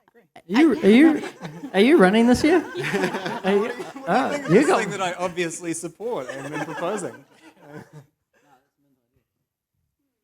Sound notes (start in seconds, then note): 2.9 laughter; 8.3 laughs